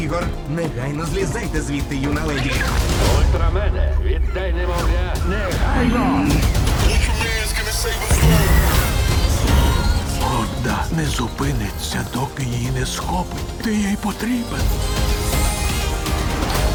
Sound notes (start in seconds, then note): 5.5 growls